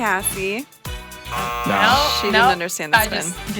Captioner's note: buzzer buzzing